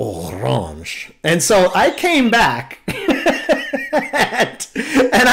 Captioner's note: laughter